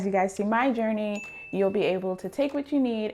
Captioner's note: chime rings